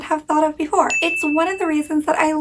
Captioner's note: bell pinging